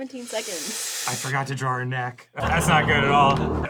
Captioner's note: hisses under duress